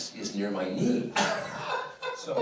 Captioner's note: man laughs